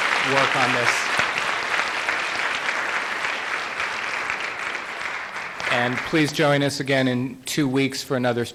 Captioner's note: applause